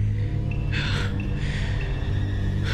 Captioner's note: alex panting